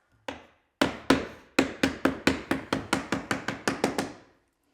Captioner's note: mallet pounding